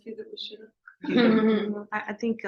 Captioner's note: laughter